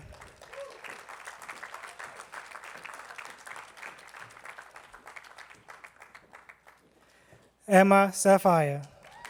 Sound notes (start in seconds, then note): 0.0 attendees clapping